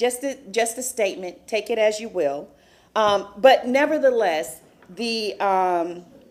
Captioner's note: sounding gavel